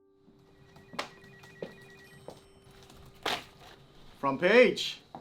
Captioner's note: phone ringing